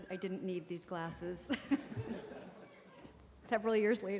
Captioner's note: laughter